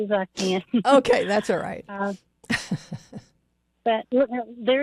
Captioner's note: laughs